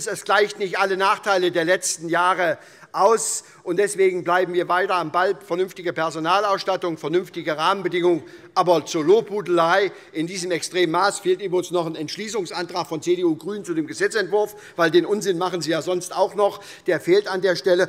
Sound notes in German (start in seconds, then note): none